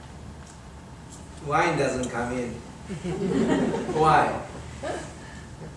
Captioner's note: audience laughing